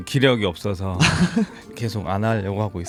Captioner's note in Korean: 웃음